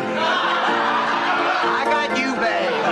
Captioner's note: laughs